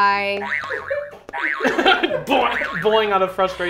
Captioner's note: buzzer beeps